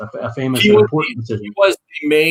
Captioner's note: murmuring